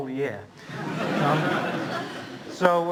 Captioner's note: laughter